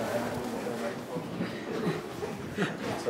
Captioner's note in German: Stimmengewirr